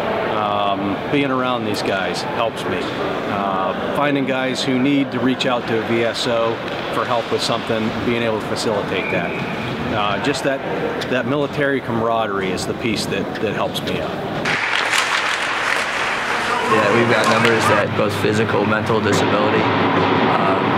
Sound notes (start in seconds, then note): 14.4 sound of hockey sticks slapping ice